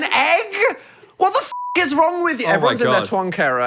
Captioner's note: beep